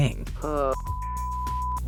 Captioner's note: moan